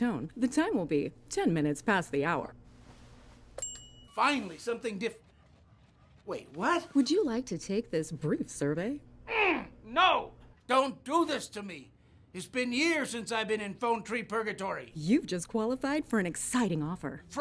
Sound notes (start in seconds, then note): 3.6 bell dings; 9.3 grunts